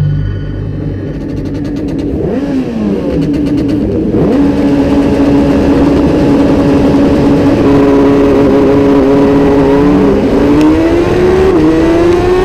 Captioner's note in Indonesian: suara Launch Control